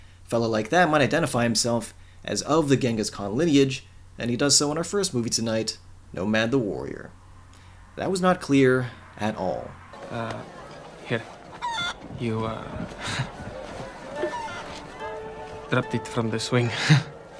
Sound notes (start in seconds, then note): 13.6 chuckles